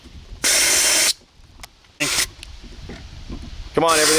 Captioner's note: air blowing